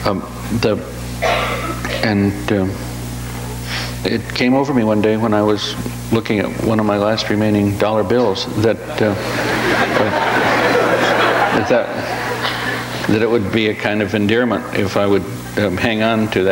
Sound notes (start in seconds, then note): 8.8 audience laughs